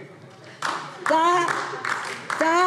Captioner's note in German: Beifall DIE LINKE